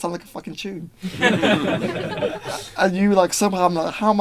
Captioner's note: group laughing